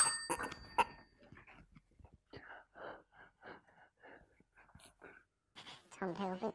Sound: chime every sentence

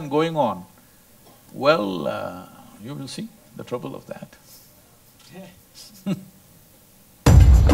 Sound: laughs

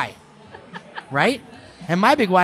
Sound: laughing

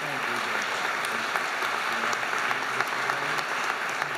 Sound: audience applauding

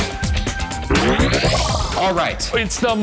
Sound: electronic whoosh

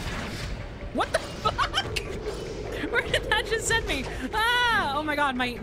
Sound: laughing

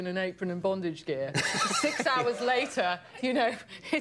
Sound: Conan laughs; laughs

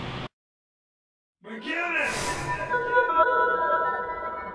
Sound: Bruce's voice

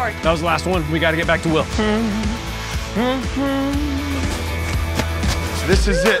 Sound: humming

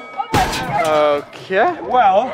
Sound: metal crashing

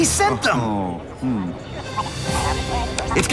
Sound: signal beeping

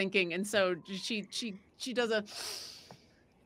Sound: sniffing

